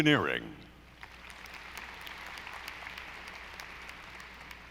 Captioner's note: audience applauding